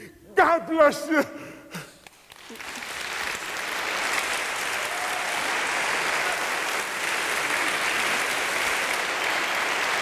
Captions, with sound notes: God bless you. (audience applauding) (audience cheering)